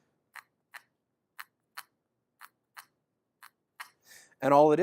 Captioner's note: scrapping cricket sound